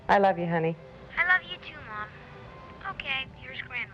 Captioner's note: on phone